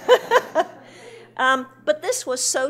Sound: laughing

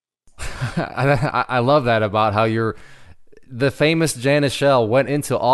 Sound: laughs

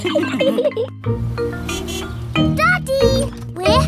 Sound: horn honks

